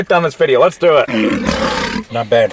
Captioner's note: lion roaring